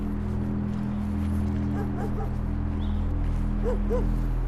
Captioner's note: dog barking in distance